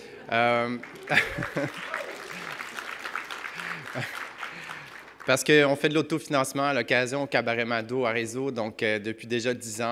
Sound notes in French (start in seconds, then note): 0.9 rire; 2.2 applaudissements